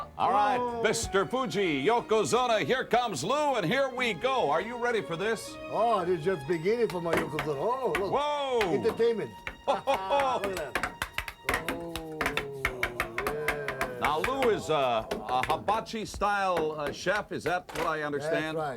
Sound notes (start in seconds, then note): 7.5 laugh